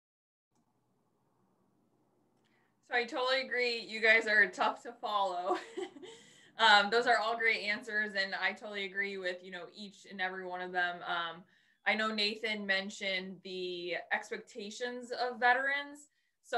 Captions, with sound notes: - I totally agree. You guys are tough to follow (laughs). Those are all great answers and I totally agree with each and every one of them. I know Nathan mentioned the expectations of veterans.